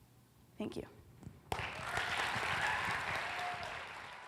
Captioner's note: applause